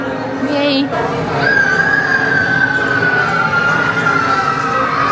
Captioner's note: children squealing